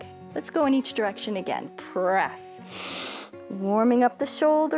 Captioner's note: inhales